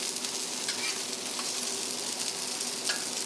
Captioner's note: sizzling kitchen sounds